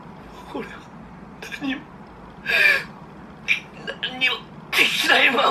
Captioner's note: Attack on Titan Japanese audio